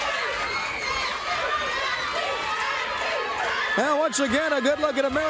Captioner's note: crowd cheering